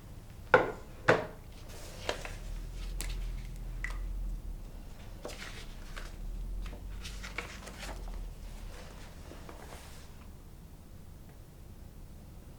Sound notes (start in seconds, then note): 5.0 turning pages